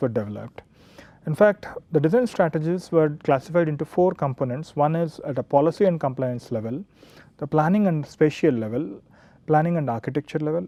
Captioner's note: hvac